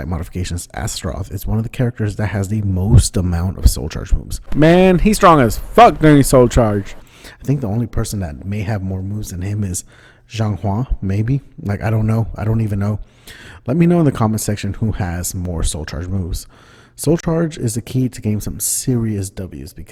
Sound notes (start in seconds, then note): 4.4 american Southern Accent